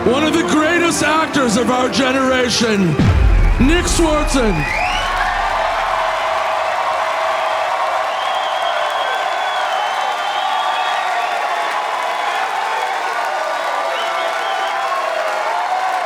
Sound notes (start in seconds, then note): 5.8 audience cheering; 8.5 audience applauding